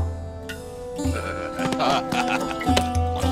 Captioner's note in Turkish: Gülme sesleri